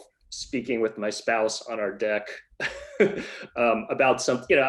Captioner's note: laughs